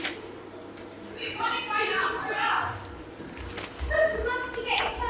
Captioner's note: offstage shouting